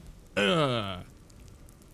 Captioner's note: death sound